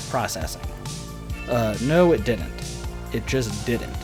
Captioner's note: normal voice